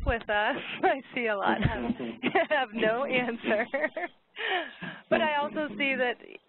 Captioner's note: laughs